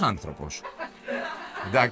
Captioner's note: laughs